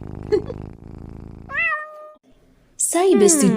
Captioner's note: woman giggles, cat meows